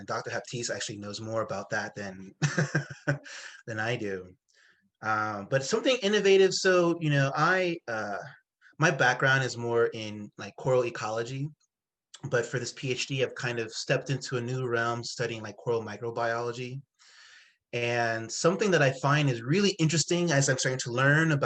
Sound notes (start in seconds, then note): 2.4 laughs